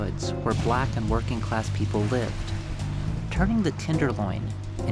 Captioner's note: smashes